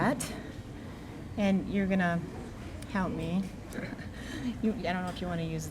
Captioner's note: chuckling